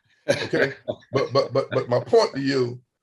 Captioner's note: laughs